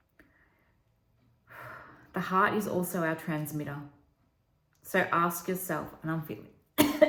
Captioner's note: cough